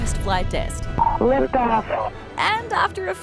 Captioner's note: over comms